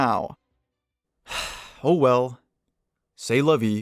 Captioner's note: sigh